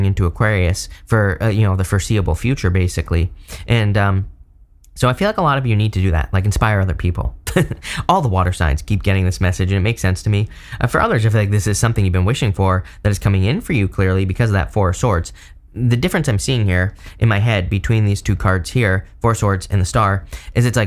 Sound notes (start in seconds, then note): 7.4 chuckles